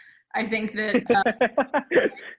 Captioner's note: giggles